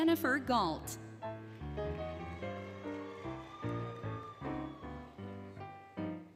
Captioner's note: applause, Cheering, Music